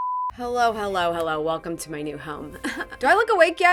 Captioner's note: laughs